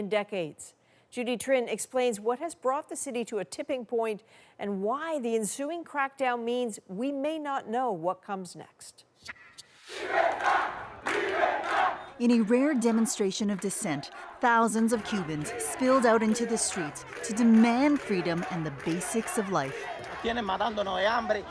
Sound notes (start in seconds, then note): 12.7 chanting